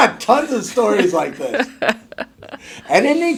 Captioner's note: laughing